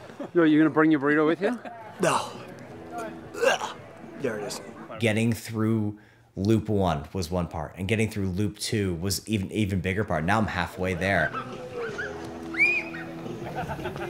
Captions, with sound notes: You're gonna bring your burrito with you? No. (gags) There it is Getting through loop one was one part and getting through loop two was an even bigger part. Now I'm halfway there